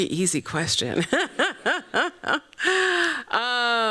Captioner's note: laughs